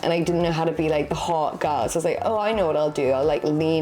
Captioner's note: none